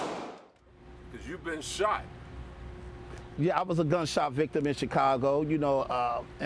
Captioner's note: gunshots